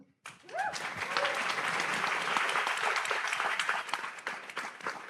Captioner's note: audience applauds